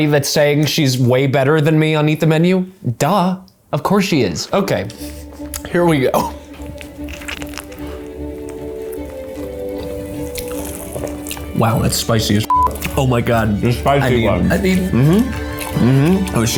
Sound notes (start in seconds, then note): 7.2 bright orchestra music; 12.5 beep